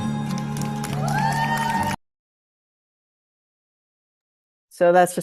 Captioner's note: audience applauds and cheers